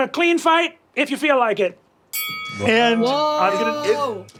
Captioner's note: bell dings